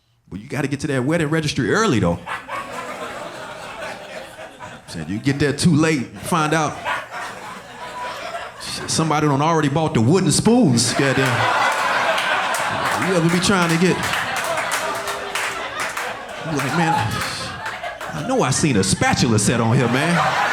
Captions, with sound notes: But you gotta get to that wedding registry early though. (audience laughing) I'm saying, you get there too late, you find out somebody done already bought the wooden spoons. (audience laughing) You ever been trying to get... Like, man, I know I seen a spatula set on here, man.